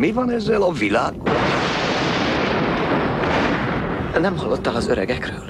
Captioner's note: thunderclap